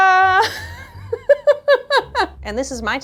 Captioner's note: laughing